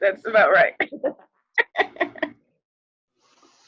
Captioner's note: laughs